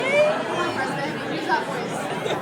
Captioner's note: crowd chattering